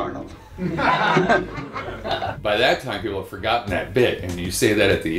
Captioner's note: laughter